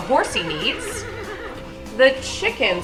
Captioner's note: horse neighs